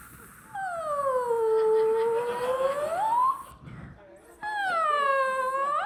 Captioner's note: Sarah imitates balloon deflating